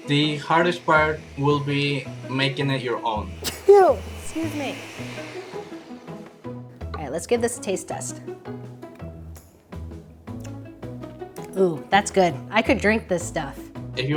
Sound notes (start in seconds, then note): 3.4 sneezes